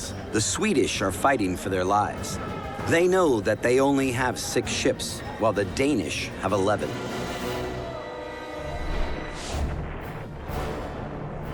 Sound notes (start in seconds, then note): 9.6 cannon fire